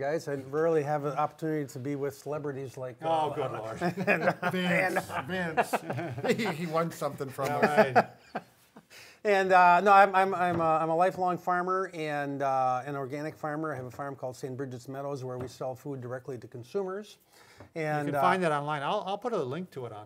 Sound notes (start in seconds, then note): 7.4 laughs